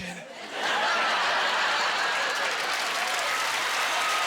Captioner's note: applause